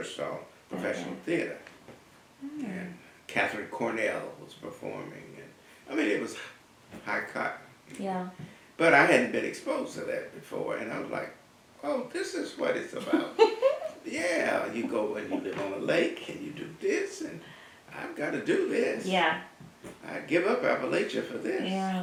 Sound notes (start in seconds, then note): 12.8 laugh